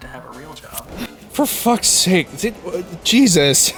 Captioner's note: stammering